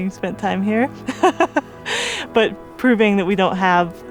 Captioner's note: laughs